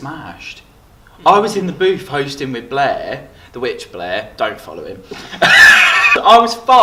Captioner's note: laugh